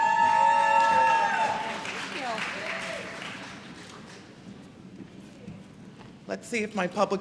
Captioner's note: applause